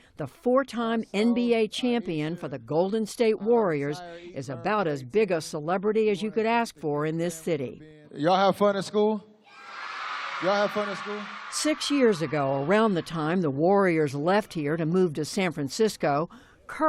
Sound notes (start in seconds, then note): 9.5 cheering